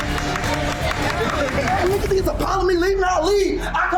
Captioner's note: customers clapping